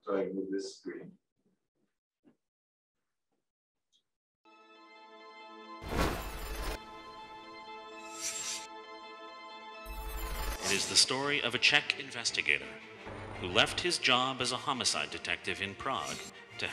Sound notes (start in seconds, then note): 5.1 unsettling classical music; 5.9 transition whooshing